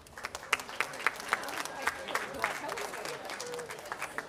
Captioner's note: audience applauding